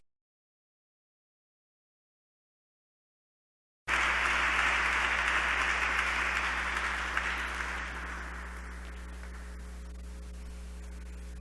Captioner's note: applause